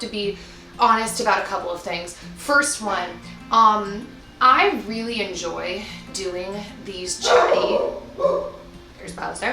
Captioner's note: dog barks